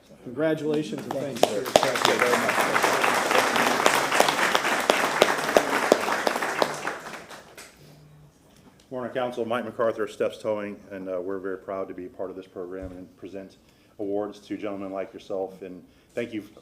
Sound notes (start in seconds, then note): 4.6 applause